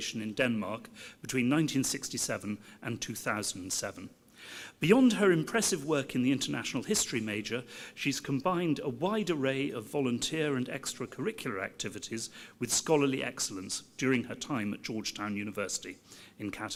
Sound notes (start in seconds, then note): none